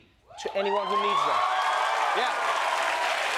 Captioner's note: cheers and applause